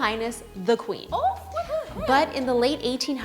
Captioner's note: laughing